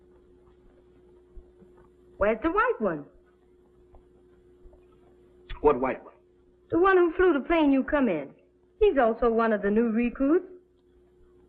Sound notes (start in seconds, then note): none